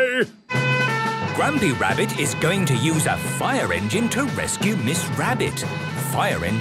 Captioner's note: sirens